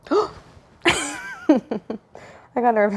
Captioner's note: laughs